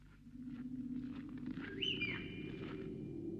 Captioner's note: whistles